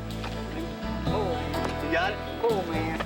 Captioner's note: rescuer exclaiming